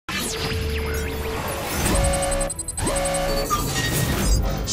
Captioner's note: futuristic hacking noises